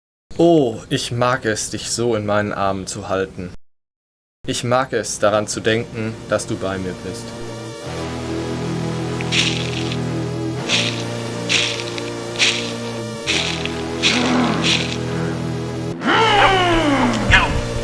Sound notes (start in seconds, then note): 10.3 eerie music; 10.3 monster growls